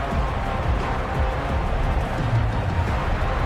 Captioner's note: crowd Noises